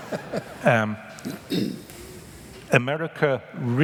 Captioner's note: laughter